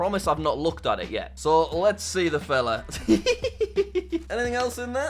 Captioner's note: laughs